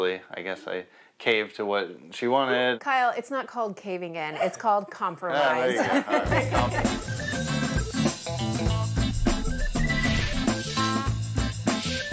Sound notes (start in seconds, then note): 5.3 group laughs; 5.4 laughs; 6.0 upbeat music